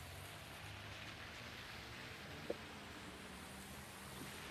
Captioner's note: rain pattering